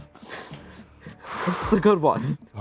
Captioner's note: exhales